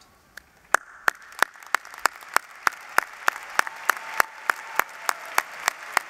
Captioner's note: applause